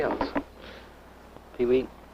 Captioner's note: laughs